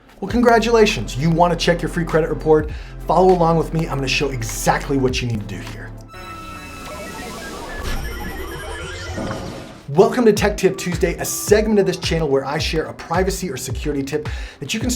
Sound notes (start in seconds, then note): 6.1 logo shimmers